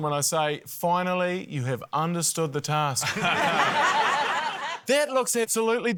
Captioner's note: laughter